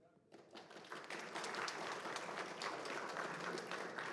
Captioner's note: applause